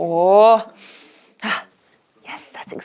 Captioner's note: speaks foreign language; sniffs